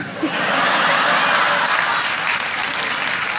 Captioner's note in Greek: γέλια